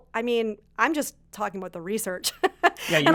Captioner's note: laughs